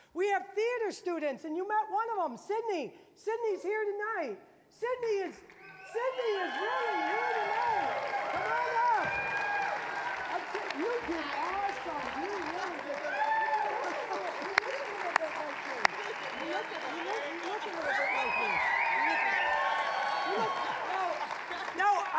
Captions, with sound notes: We have theater students-- and you met one of them, Sydney. Sydney is here tonight. Sydney is really here tonight! (applause, cheering) Come on up! (applause) You did awesome-- you really did! (applause, cheering)